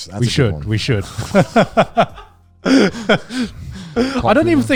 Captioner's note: laughing